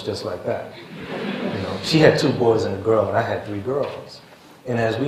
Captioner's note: laughter